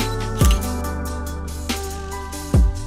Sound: camera shutter clicks

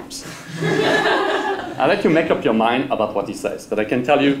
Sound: laugh

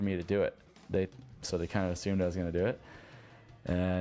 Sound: voiceover

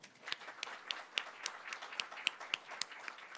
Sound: applause

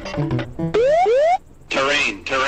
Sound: alarm sound

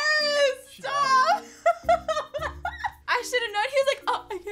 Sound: laughs

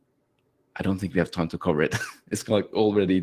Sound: laughs

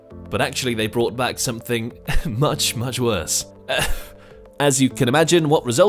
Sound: confused exhale

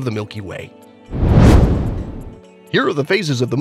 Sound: meteor whooshes

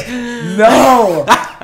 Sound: sigh of satisfaction; laugh of satisfaction

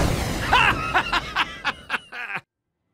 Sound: jubilant Laughing

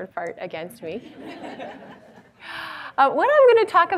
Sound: audience laughs

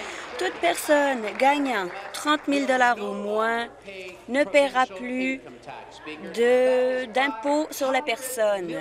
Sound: applause

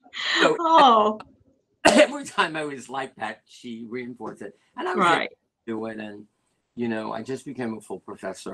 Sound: laughter

